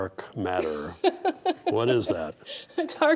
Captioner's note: laughing